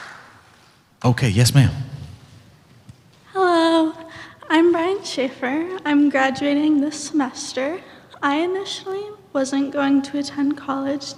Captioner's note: clapping